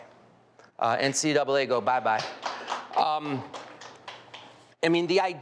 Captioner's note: audience clapping